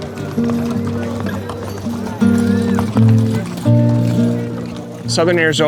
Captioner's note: horses trotting